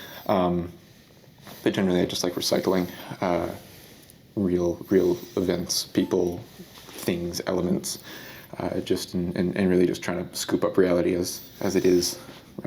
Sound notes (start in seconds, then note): none